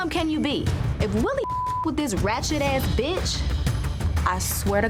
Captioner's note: beep